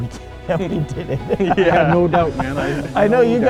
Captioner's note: group laughs